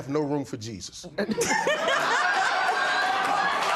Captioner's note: laughter